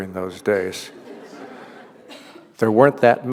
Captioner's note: laughter